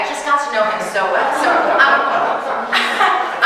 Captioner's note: audience laughing